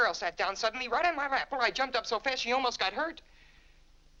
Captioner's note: none